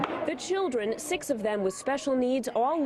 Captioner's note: voiceover